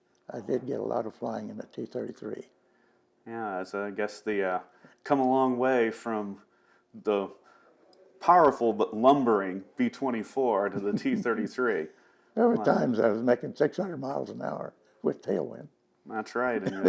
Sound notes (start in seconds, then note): 10.6 laughs; 16.6 laughing; 16.6 laughs